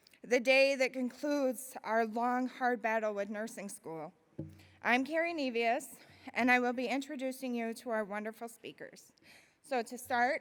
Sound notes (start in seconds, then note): none